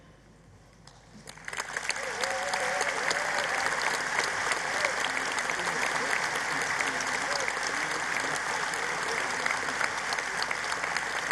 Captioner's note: applause